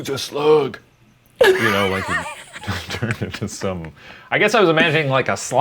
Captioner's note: laughing